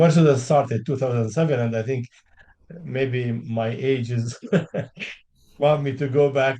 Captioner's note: chuckles